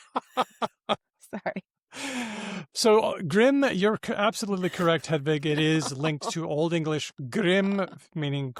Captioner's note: laughs